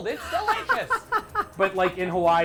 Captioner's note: laughs